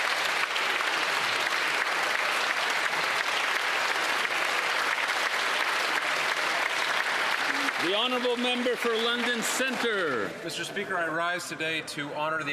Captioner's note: some Applause